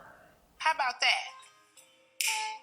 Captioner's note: snap